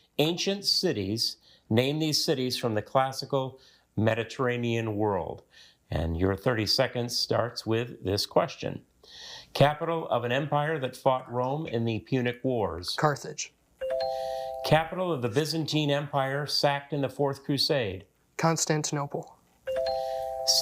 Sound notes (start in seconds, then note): 13.8 bell dings; 19.7 bell dings